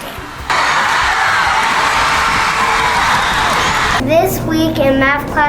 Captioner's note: crowd cheering